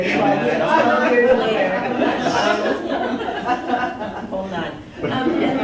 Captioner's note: laughter